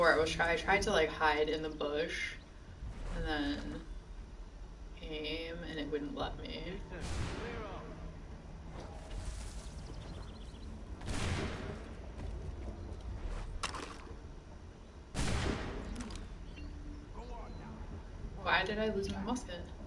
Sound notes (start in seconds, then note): 15.1 gunshot